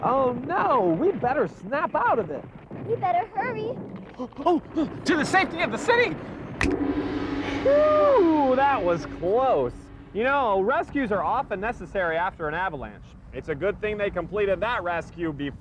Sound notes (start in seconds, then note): 6.6 gong; 6.6 finger snaps